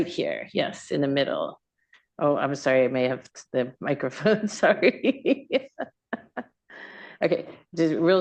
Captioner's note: laughs